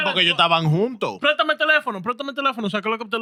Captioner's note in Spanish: Hablando en idioma extranjero